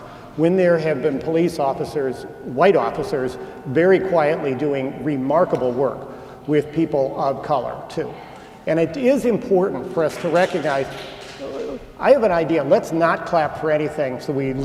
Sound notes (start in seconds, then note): 10.1 short applause